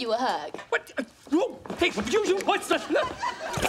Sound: stammering

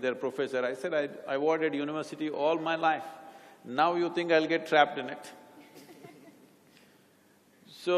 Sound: laughter

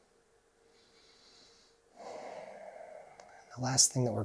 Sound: breathing deeply

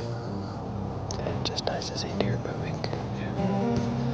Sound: whispering

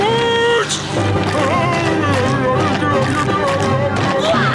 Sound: groaning

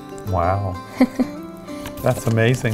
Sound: laughing

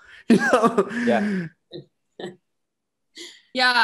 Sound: laughs

